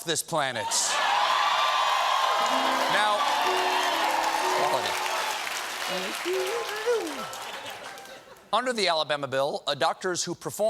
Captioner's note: applause